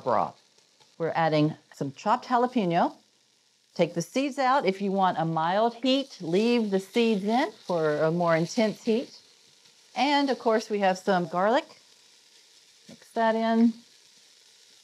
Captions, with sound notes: Take the seeds out if you want a mild heat, leave the seeds in for a more intense heat. And, of course, we have some garlic. (sizzling) Mix that in. We're going to let that cook for about 30 seconds or so,